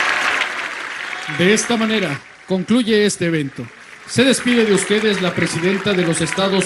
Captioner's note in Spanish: aplausos